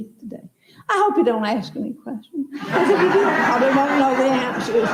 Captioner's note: laughter